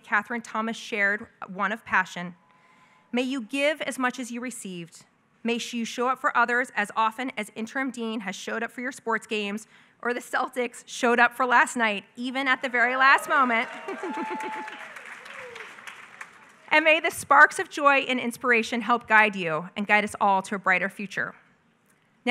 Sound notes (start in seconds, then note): 13.0 applause